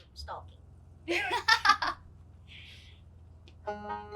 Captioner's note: laughs